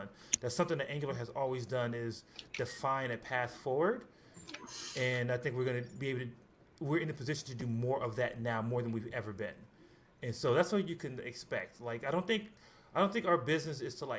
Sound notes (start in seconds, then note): none